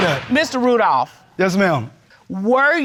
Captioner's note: bangs gavel